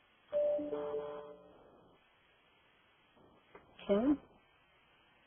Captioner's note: computer rings